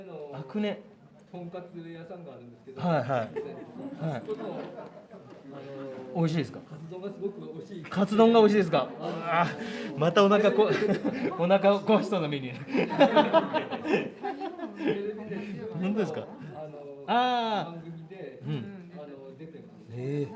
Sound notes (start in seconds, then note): 12.6 笑い